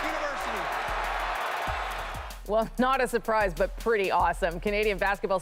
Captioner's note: cheers and Applause